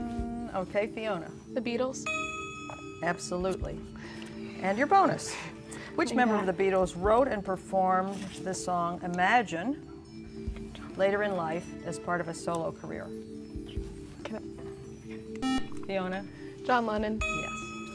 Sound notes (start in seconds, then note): 12.5 whispering